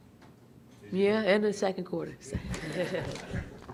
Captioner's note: laughs